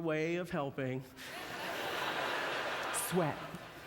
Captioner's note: audience laughter